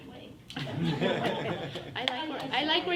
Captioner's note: everyone laughs